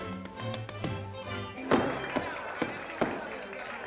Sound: applause

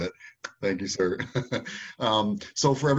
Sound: laughs

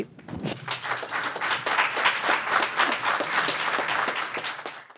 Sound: audience clapping

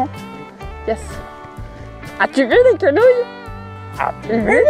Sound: in french

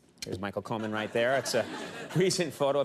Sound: audience laughs

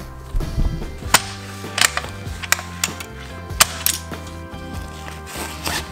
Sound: tool locking in place

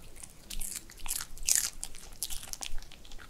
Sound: crunch crunch

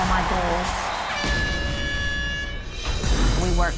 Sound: loud beep

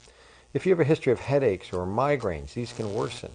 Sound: zapping

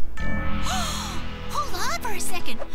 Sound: huffs; gasps

